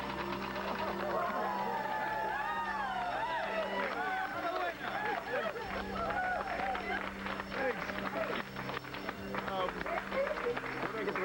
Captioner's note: bells sound